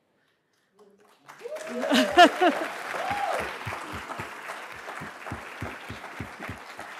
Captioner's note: attendees cheering and applauding; chuckles